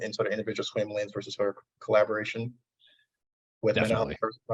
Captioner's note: audio distortion